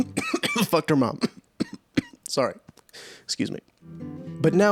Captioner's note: cough cough